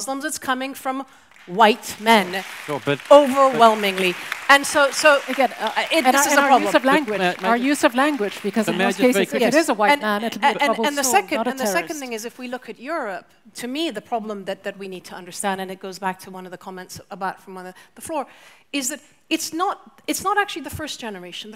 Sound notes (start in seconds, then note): 3.9 audience applauds